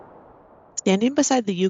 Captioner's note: wind sounds